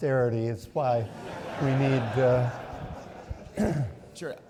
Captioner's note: audience laughing